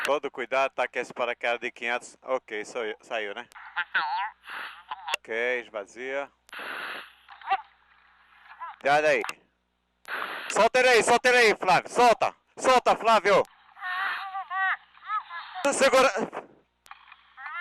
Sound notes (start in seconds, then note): 0.2 man speaks in foreign language; 5.4 man speaks in foreign language; 6.6 equipment fizzling; 7.4 scuba diver shouting distantly; 8.9 man speaks in foreign language; 10.0 radio fizzles; 11.0 man screams in foreign language; 13.9 scuba diver shouting distantly; 15.6 radio fizzles; 16.2 man screams in foreign language